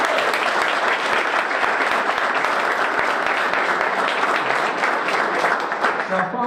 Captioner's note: applause